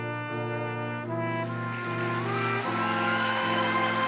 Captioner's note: applause